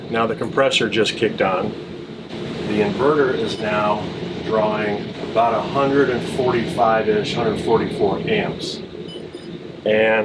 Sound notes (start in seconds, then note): 2.0 compressor whirring; 9.0 sensor beeping